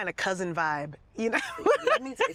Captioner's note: laughing